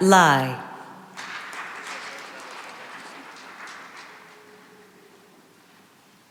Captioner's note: applause